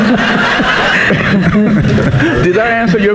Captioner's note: audience laughing